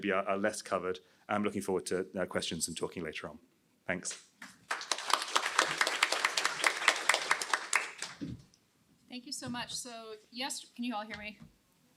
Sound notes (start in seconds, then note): 4.4 applause